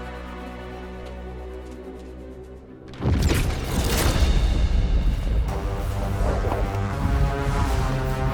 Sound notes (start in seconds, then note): 3.2 crackling; 5.3 foreboding music